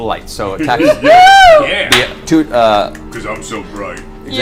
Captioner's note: all cheer